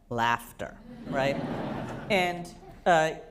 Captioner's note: laughter